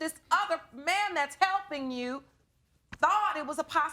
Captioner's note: none